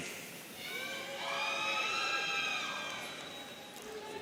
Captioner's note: audience cheering